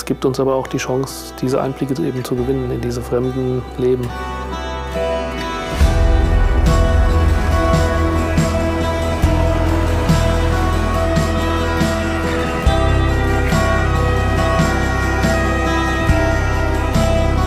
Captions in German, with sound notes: Das gibt uns die Chance, diese Einblicke zu gewinnen in diese fremden Leben. (Eindringliche Musik) (Einsatzsirene)